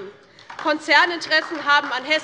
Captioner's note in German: Beifall DIE LINKEN